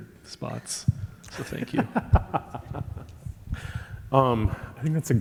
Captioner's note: laughing